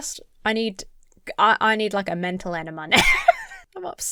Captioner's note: laughs